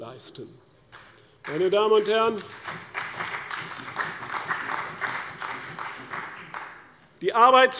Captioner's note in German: Beifall bei der CDU und dem BÜNDNIS 90/DIE GRÜNEN